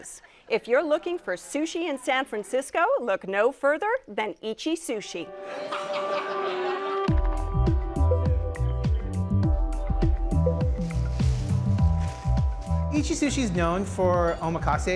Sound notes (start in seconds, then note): 5.4 laughs